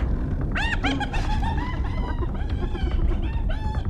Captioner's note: cackling